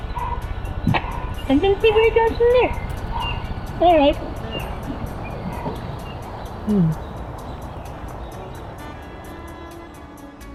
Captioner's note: kissing